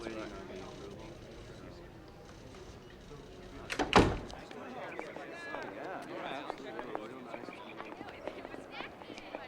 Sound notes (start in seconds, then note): 4.5 students chattering